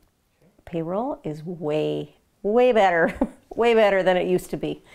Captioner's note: chuckles